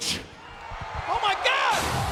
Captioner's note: audience booing